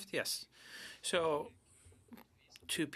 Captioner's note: speaking in French